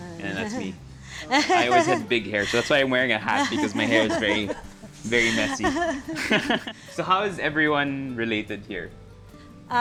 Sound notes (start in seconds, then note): 0.0 chuckles; 5.8 laughs